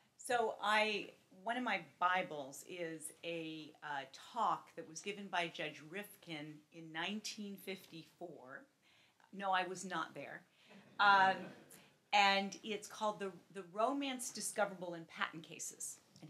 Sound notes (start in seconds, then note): 10.8 laughs